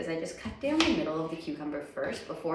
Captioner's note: knife slicing